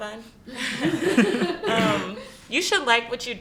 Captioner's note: laughs